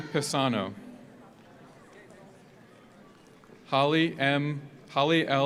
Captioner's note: audience applauds; audience cheers